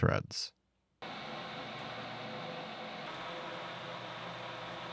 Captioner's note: machine whirring